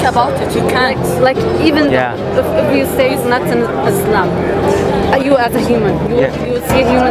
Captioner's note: Arabic